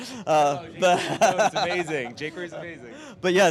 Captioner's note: laughing